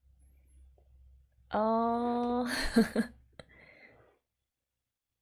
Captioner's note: laughs